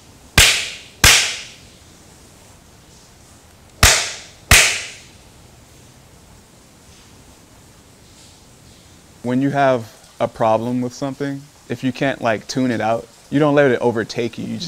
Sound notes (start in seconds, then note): 0.4 lash sound; 4.5 lash sound